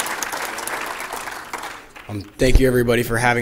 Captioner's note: applause